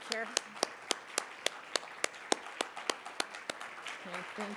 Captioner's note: everyone applauding